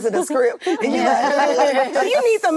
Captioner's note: actresses laughing